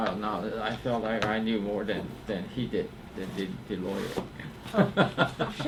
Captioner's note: laughs